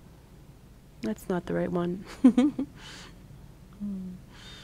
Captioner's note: chuckles